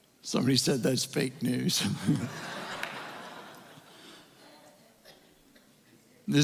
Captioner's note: more Laughter